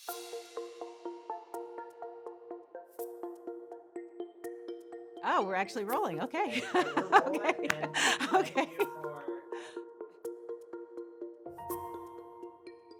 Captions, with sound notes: (thoughtful music starts) - Oh, we're actually rolling, okay. (laughs) (thoughtful music)